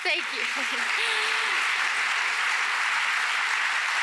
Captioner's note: applause